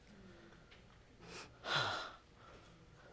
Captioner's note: sighs